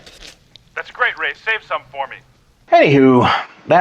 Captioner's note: on walkie-talkie